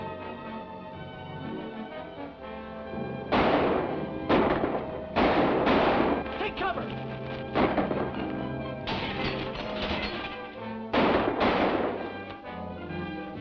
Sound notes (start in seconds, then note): 4.2 gun fires; 8.8 glass shatters; 10.9 guns fire